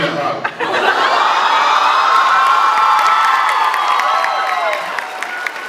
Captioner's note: laughs, cheers, applauds; applauds